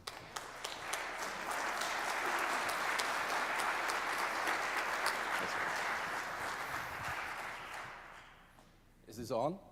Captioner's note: applause